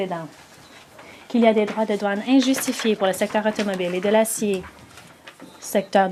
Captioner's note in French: voix de l'interprète